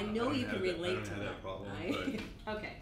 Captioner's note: chuckles